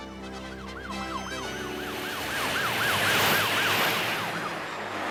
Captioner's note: sirens